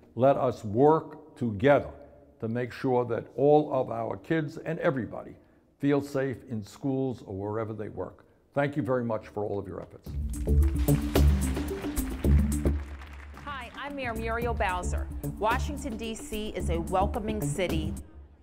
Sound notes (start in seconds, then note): 10.2 crowd applauds